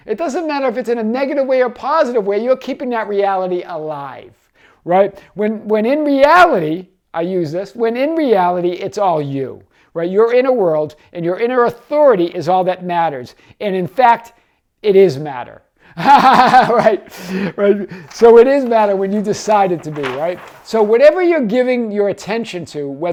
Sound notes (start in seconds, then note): 16.0 laughing